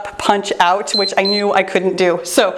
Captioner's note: timer beeps